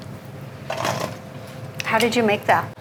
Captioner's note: clattering